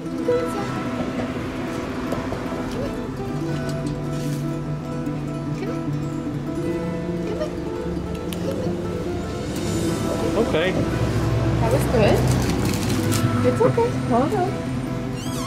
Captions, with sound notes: Go inside. Come on. Come here. Come here. Come on. [Tongue clicks] Okay. That was good. It's okay, hold on.